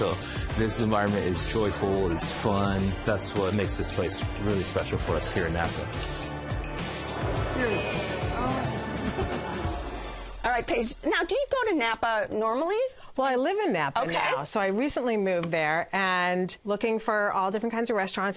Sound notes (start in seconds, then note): 7.2 laughs